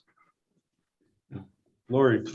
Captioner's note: silence